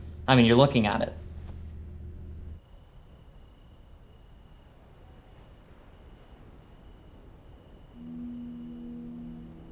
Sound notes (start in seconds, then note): 1.1 crickets chirping